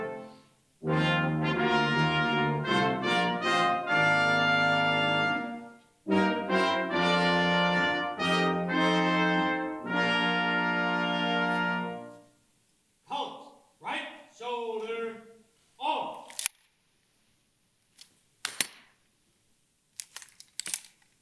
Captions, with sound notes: Halt, right shoulder, off! (rifles clink) (rifles click)